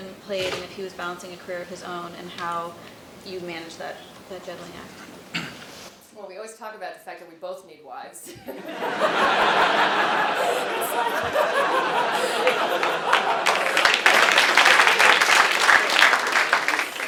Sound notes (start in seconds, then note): 8.3 laugh